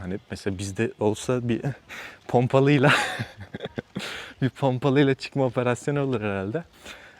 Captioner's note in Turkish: kahkaha